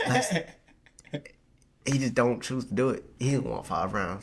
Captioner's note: laughing